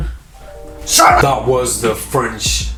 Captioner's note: yelling